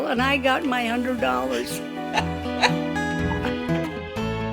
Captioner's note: laughs